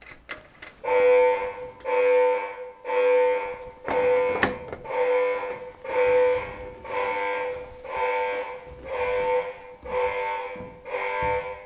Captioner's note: alarm siren sound